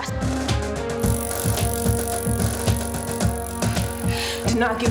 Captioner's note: stationary bike chain spins